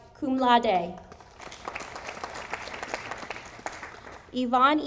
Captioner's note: audience applauding